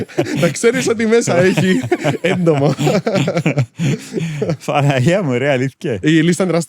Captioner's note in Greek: γέλια